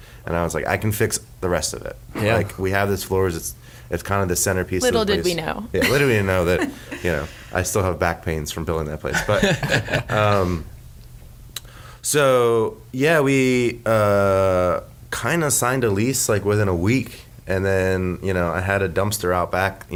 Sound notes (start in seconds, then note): 5.8 chuckles